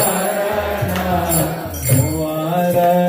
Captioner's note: music and singing; chanting